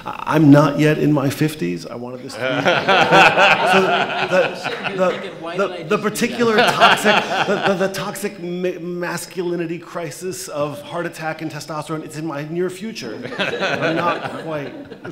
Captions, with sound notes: I'm not yet in my 50s, I wanna just add. (laughter) - I'm sitting here thinking, why did I do that? - The particular toxic, the toxic masculinity crisis of heart attack and testosterone, it's in my near future, but not quite.